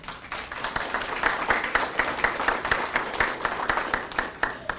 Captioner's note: attendees clapping